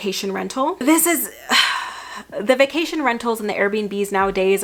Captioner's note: sighs